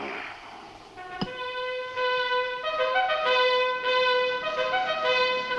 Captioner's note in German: Weckruf ertönt